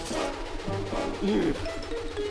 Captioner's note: sighs